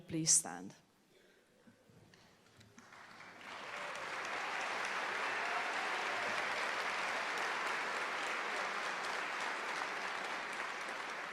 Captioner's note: applause